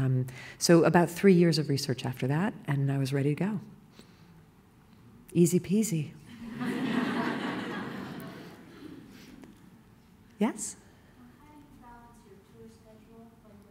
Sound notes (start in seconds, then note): 6.3 laughter